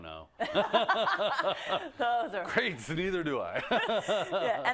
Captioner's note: laugh